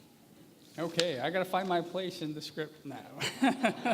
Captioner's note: laughter